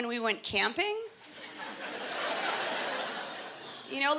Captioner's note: laughter